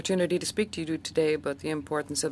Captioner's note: speaking French